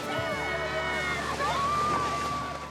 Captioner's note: cheering